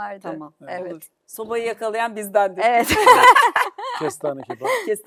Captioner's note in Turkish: kahkaha